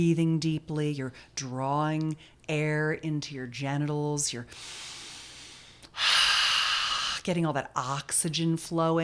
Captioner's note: inhaling/exhaling